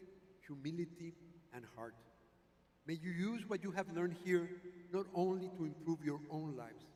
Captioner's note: none